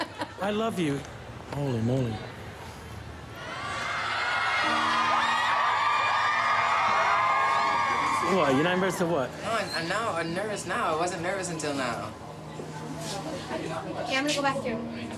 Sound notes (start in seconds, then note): 0.0 laughs; 3.4 women cheering